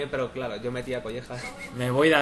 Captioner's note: chuckles